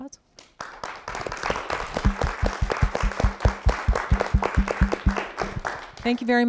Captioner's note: applause